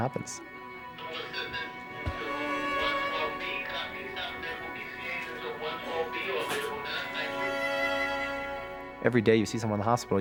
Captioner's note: radio chatter